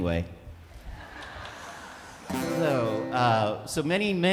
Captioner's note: attendees laughing